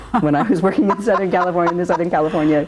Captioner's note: laughs